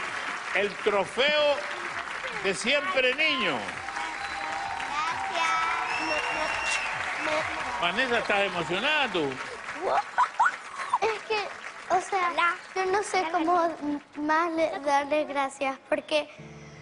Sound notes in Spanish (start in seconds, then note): 7.3 Silbidos; 10.6 Risas de un niño